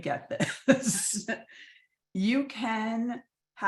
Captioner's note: both chuckling